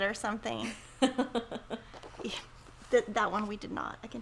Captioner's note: laughs